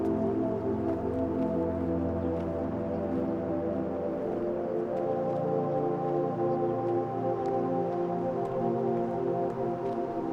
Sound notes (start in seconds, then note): none